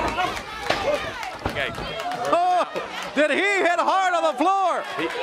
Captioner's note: crowd chatter